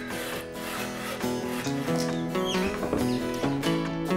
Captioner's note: sawing Noises